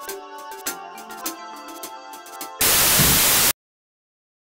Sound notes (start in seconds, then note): 2.6 static